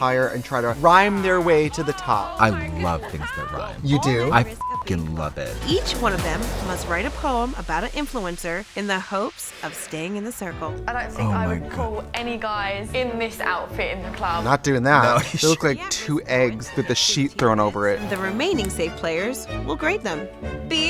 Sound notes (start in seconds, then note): 4.3 beep